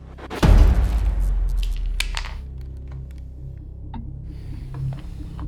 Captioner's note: dramatic music; eerie music; cookies rattle; eerie music